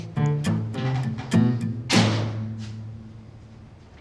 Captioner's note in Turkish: Kapı kapatma sesi